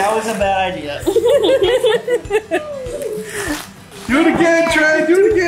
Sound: group laughs

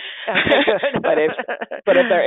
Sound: chuckling

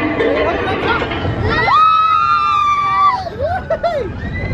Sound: screaming

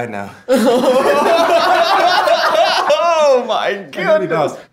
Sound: everyone laughing

